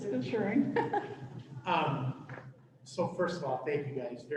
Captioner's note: laughter